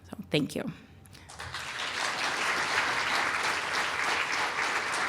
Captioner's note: applause